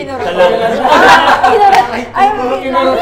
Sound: everyone laughs

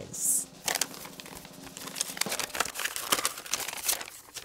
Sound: paper rustles

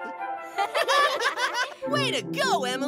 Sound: giggles

